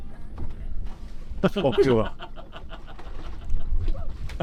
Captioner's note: dying in Polish with laughter in the background